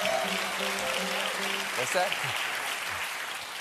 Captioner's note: cheers and applause